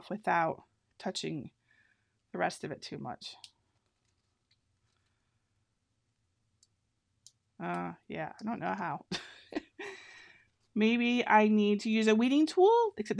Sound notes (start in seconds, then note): 9.0 laughing